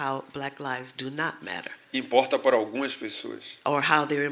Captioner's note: speaking portuguese